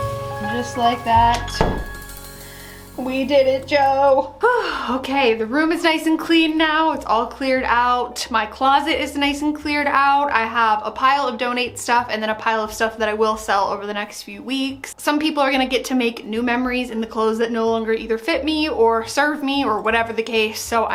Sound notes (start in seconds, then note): 4.4 sighs